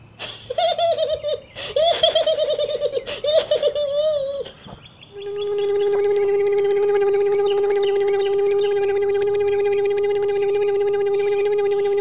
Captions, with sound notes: he he he he he he [ crane motor]